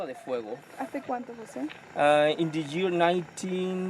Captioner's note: guide speaks in foreign language; tourist speaks in foreign language